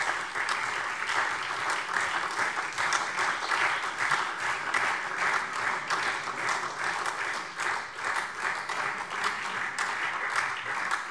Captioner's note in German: Beifall SPD und DIE LINKE